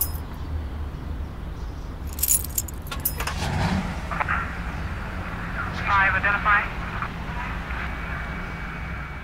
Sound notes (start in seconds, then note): 2.0 keys jingling; 5.9 police radio chatter